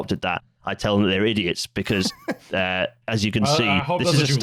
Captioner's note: laughs briefly